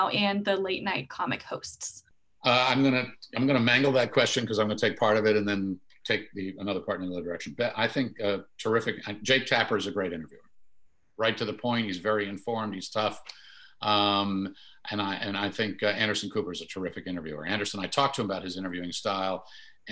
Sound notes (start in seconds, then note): none